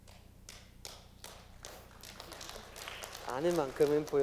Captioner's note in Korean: 박수